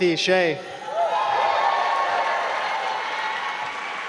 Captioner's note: applause